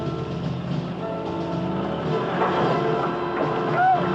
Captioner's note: shouting